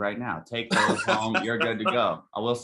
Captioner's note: speaker laughing